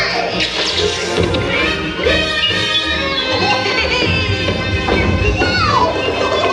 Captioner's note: bright patriotic music; rockets hissing; fireworks exploding